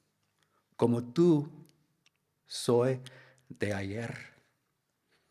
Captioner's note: speaks in Spanish